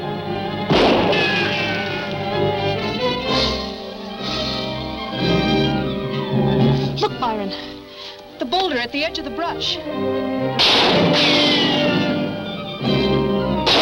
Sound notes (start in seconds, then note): 0.7 gun roaring; 10.5 guns roaring